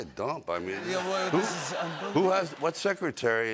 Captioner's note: laughter